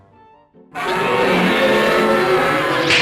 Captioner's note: roaring loudly